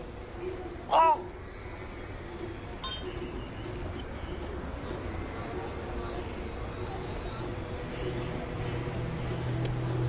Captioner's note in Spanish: Quejido